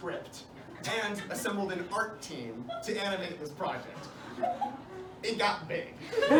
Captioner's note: laughs of disbelief and gasps; laughter